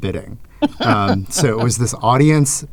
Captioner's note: chuckling